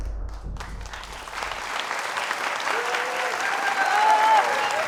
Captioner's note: applause